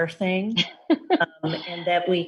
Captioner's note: laughs